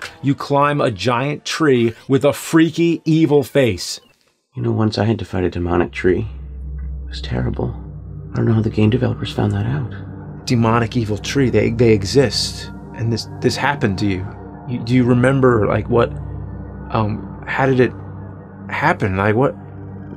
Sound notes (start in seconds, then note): none